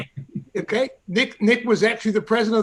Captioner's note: laughs